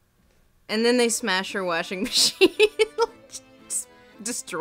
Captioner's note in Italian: voce fuori campo